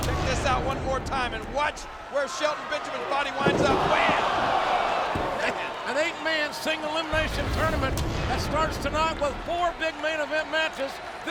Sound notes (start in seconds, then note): 3.1 audience groan